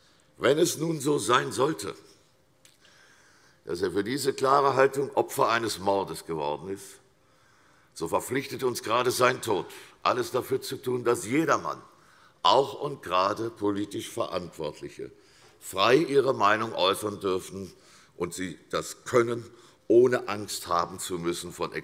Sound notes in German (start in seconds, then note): none